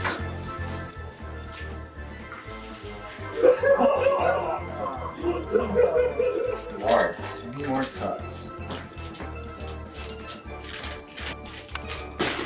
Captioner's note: audience laughter; whistle